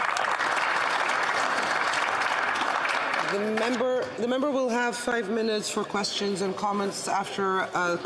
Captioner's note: some Applause